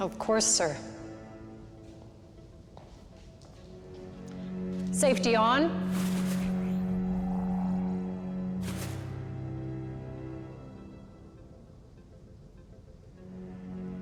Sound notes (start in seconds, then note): 5.8 electricity whooshing; 9.9 suspenseful music continues